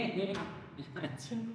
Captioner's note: laughing